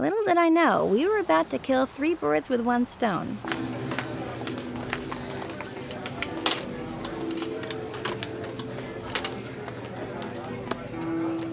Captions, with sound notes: Little did I know we were about to kill three birds with one stone. (group chattering) (gentle music)